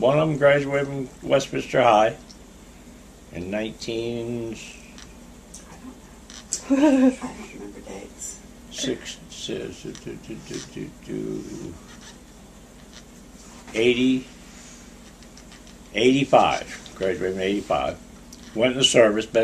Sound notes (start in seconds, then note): 7.1 quietly